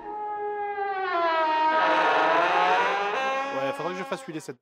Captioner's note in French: grincements